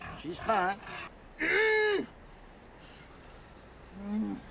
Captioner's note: grunts